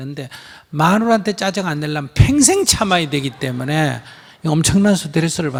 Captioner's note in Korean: 청중 웃음